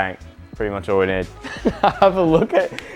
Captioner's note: he laughs